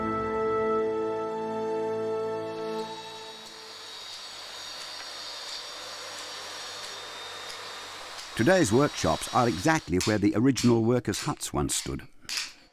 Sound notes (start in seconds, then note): 2.3 machinery whirring